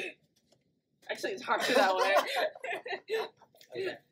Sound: both laugh

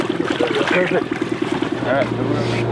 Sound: water splashing; boat engine vibrating

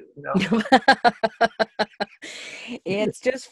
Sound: laughter

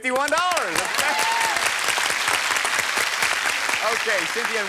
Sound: applause

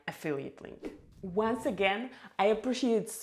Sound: sweeping swoosh

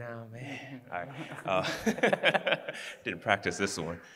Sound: laughing

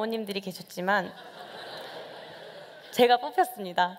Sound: laughter

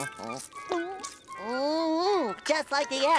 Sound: gulps

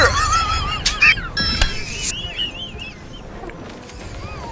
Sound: abrupt wheezing laughter

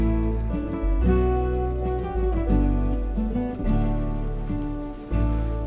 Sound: fire crackles gently

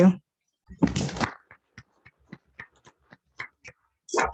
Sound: audience clapping

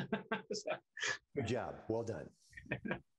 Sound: laughing

